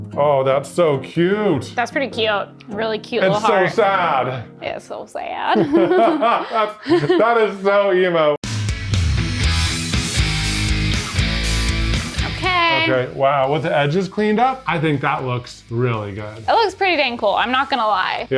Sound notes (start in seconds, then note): 5.5 both laughing; 8.4 moody rock music